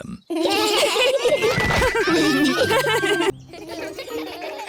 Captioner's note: laughter